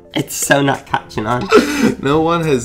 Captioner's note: chuckles